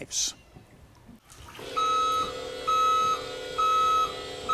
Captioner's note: beeping